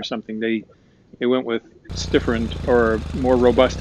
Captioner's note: engine running